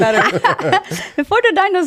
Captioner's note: laughing